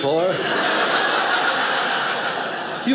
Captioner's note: audience laughing